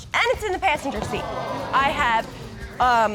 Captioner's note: audience gasping